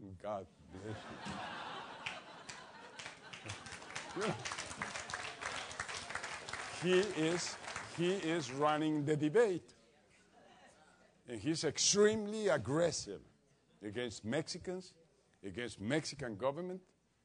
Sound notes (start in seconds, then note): 0.8 laugh; 2.0 applause